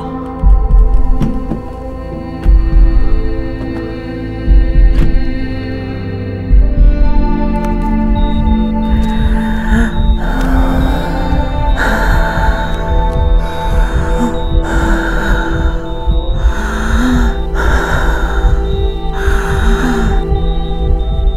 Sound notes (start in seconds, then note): 9.2 Mini breathing heavily